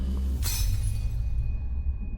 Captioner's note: glass breaking